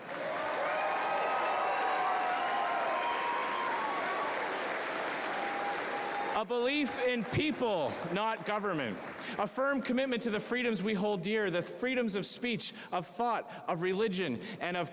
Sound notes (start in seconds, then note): 3.8 cheering